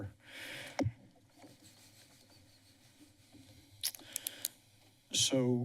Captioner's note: silence